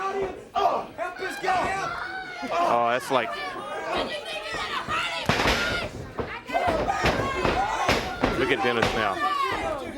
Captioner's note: crowd chatter